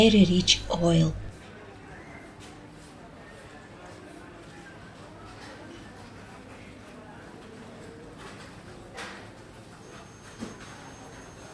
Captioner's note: indoor market noise